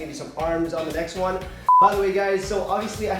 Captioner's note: beep